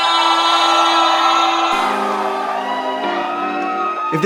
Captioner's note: cheering